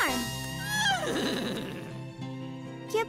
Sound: neighing

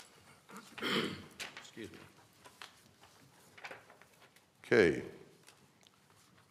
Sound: cough

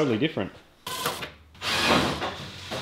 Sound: battery-powered drill

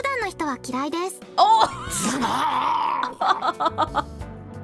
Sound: chuckles

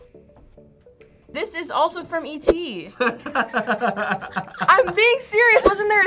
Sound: laughs

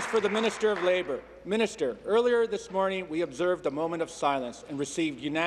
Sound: applause

